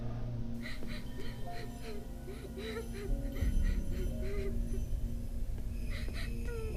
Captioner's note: gentle tense music; victim sobbing